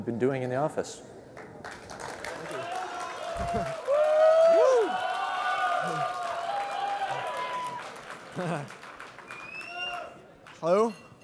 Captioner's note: applause